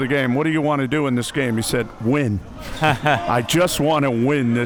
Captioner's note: chuckling